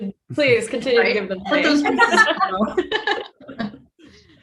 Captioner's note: group laughing